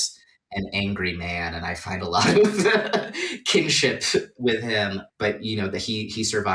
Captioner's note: laughing